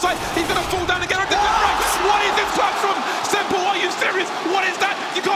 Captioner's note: crowd cheering